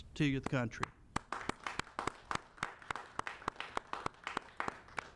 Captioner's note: applauding